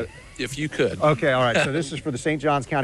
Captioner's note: laughter